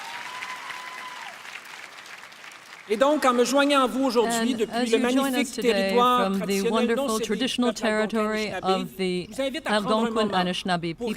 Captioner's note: applause